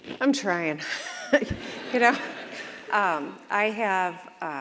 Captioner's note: audience laughs